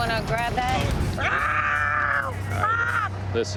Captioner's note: screams